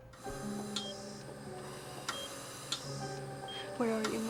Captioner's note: machines beeping